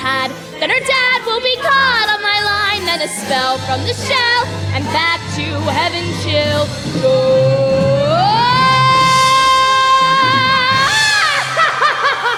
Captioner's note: screaming